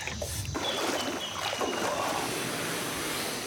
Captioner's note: bird chirping